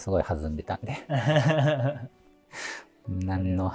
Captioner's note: laughing